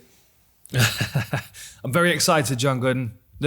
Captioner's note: laughing